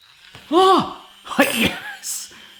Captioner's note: whisk whirring